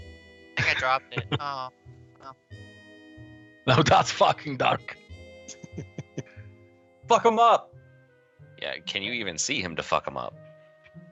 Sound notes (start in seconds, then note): 5.5 sniggering